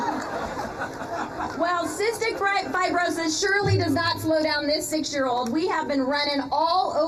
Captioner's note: laughter